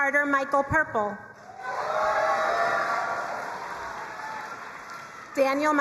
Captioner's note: crowd cheering and applauding